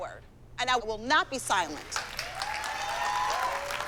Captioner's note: applause, cheering